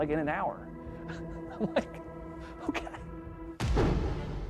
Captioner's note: laughing